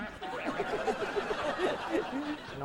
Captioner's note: laughing